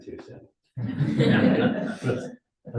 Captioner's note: audience laughing